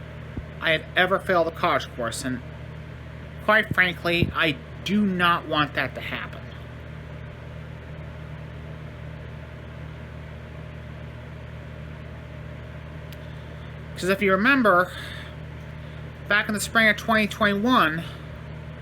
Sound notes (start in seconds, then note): none